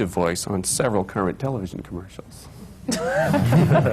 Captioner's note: laughter